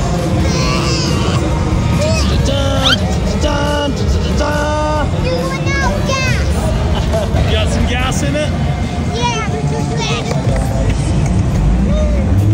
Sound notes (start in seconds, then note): 0.4 grunting; 2.2 imitates dramatic music